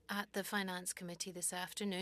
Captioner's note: speaking French